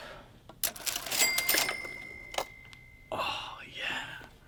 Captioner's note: cash register ring